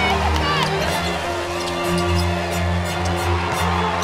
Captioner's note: crowd cheering